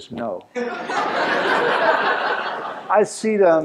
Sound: laughter

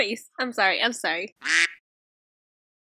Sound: quack

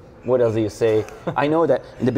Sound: laughs

